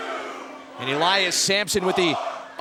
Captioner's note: crowd cheering